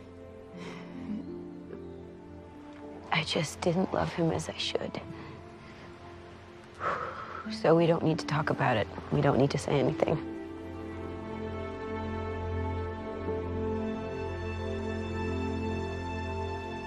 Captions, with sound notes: I just didn't love him as I should. (exhales) So we don't need to talk about it. We don't need to say anything. (romantic music)